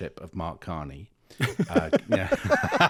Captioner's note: laughing